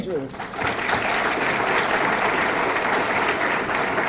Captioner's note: audience clapping